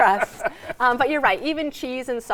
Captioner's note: laughing